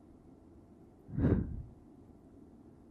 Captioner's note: sigh